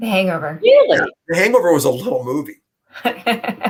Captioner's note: laughter